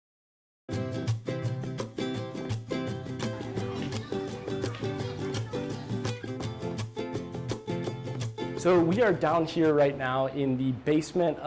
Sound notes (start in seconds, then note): 0.7 pleasant music; 3.1 crowd murmuring